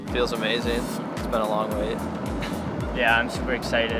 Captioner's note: laughs